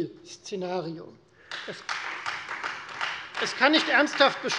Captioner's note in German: Beifall Freie Demokraten